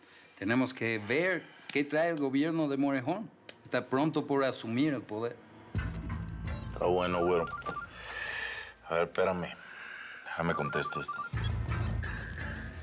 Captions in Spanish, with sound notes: TENEMOS QUE VER QUÉ TRAE EL GOBIERNO DE MOREJÓN. ESTÁ PRONTO POR ASUMIR EL PODER. >> 'TÁ BUENO, GÜERO. [SUENA EL CELULAR] A VER, 'PÉRAME, DÉJAME CONTESTO ESTO.